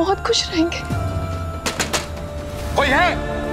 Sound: banging on door

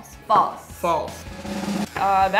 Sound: drum roll; buzz

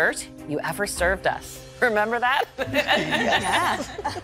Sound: laughter; laughs

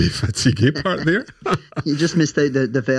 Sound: laughing

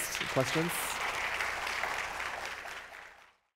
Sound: audience applauds

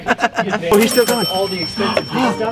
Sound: cash register dinging

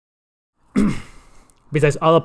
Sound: clears throat

